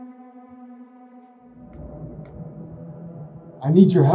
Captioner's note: wind howls